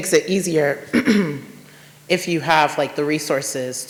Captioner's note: audience member clears throat